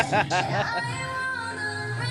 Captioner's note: singing in foreign language; laughing; singing in foreign language